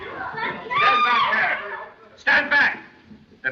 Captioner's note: commotion; scream